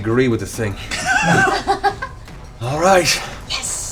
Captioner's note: laughter